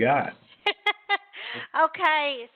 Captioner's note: laughs